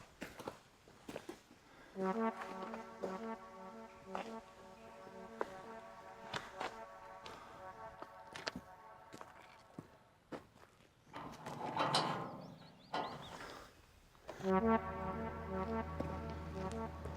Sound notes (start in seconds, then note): 2.0 dramatic music; 11.1 gate clanks; 14.4 dramatic music